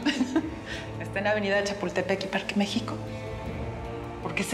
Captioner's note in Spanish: risas